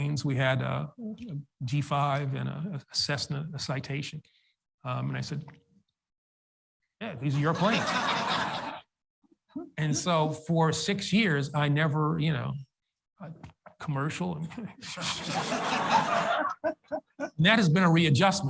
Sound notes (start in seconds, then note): 7.3 audience laughs; 15.0 audience laughs